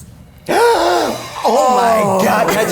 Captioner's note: gasps